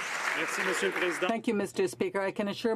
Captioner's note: some Applause